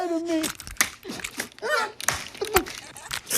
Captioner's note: gun rattles